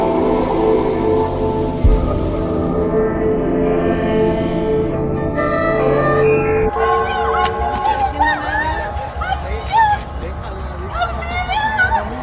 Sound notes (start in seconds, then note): 6.8 shouts